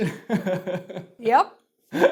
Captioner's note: laughs